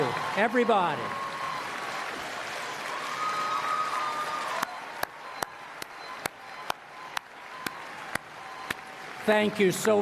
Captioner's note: applause